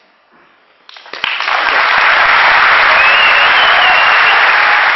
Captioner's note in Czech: potlesk